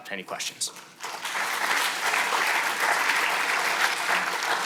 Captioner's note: audience clapping